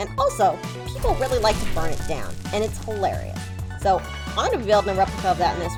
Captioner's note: fire crackling